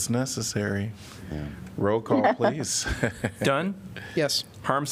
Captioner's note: laughter